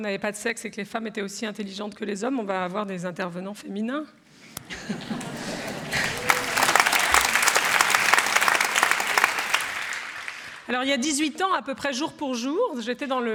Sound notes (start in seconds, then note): 4.6 laughter; 4.7 applause